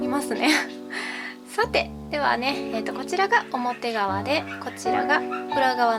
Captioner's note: laughs